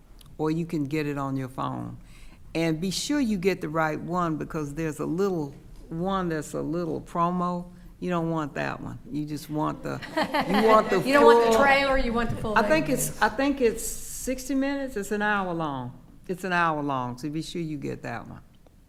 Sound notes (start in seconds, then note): 9.9 attendees laughing